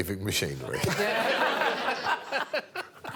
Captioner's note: all laughing